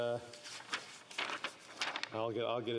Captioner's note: speaking French